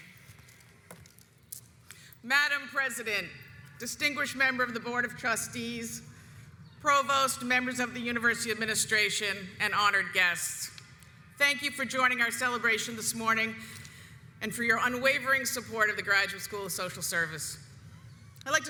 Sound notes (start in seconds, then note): none